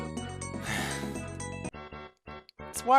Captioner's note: sigh